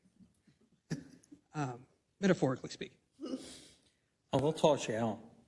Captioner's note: laugh